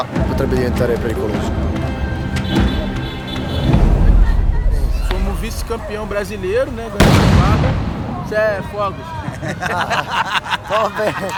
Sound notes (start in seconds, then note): 7.4 explosion; 8.3 laughs